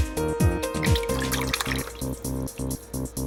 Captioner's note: soup sloshes